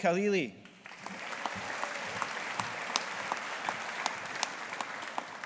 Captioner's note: audience applauding